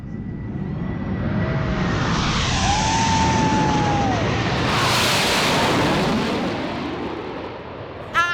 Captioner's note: jets whoosh